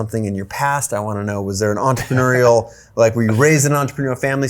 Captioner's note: Tom chuckles